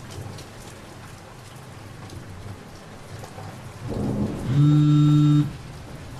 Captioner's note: phone vibrating